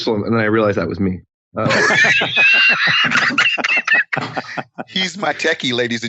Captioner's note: all laughing